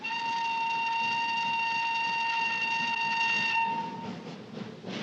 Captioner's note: train whistle blowing